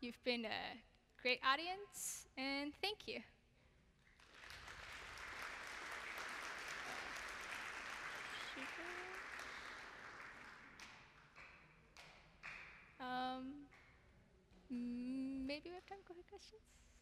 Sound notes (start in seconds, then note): 4.0 applause